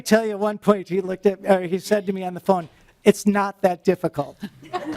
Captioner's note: laughing